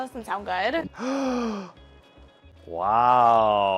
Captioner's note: gasps